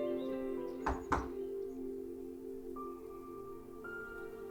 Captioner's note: door knocks; gentle music